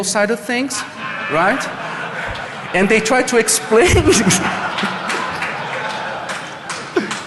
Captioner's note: laughing